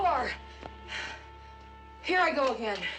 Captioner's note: panting